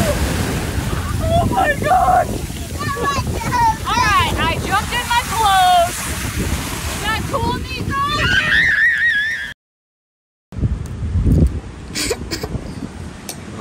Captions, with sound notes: - All right. I jumped in my clothes. Is that cool Niko? (Baby screaming)